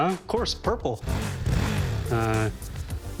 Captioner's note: motor revs